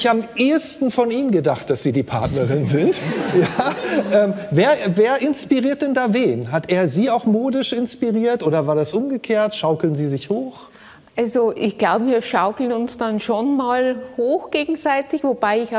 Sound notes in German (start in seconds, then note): 4.4 Lachen